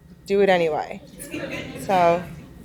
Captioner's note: laughing